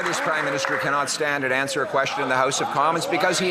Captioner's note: some Applause